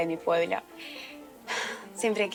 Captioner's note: deep Breathing